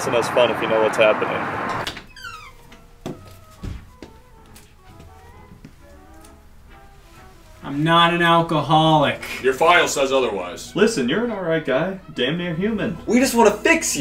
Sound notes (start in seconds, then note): 1.6 door squeaks